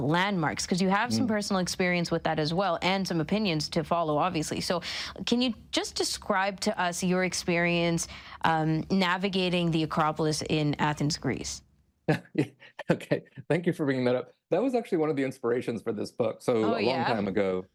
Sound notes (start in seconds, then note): 12.1 laughs